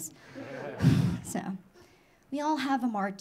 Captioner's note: audience laughing